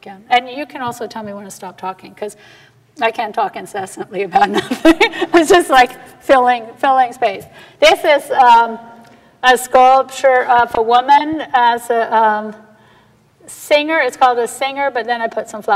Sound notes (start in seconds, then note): 0.0 aside, quietly; 4.4 laughing